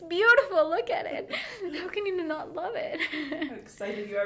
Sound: laughing

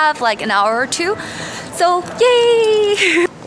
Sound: giggles

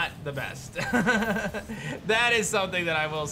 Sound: laughs

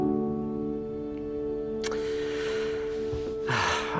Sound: sighs heavily

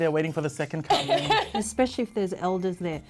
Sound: laughs

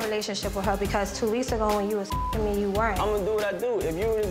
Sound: beep

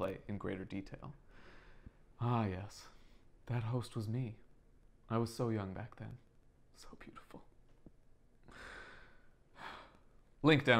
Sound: sigh

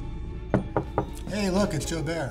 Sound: knocking on door

